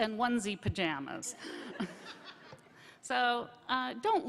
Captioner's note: laughter